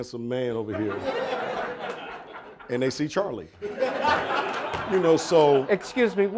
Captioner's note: audience laughing